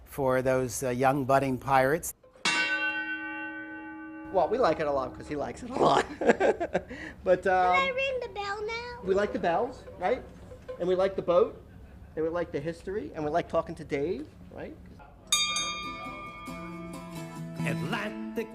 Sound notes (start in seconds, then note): 5.7 laughs